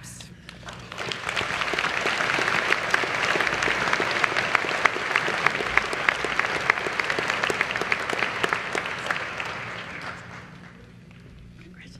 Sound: applause

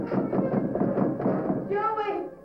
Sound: pounding on door

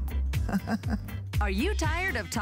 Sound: laughter

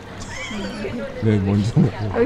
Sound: laughingering

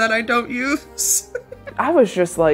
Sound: laughs

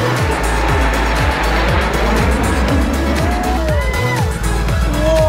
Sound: jet plane engines roar; crowd cheering; police bike sirens

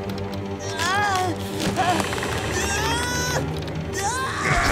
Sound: groaning

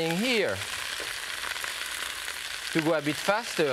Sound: sizzling

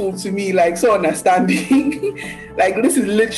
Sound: laughing

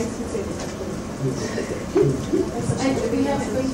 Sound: panelists laugh

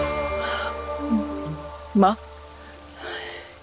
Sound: sighs

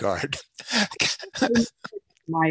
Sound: laughter

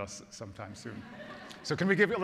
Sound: congregation laughs

